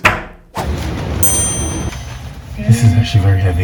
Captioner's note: bell ringing